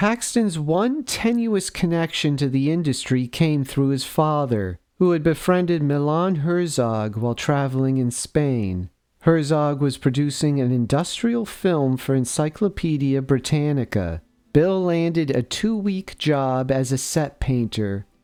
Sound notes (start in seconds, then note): none